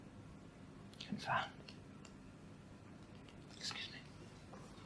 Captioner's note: mutters